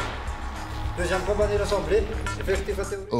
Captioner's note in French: audio parlé en français